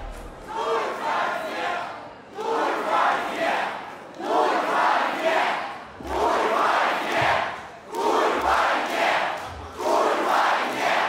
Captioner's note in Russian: зал скандирует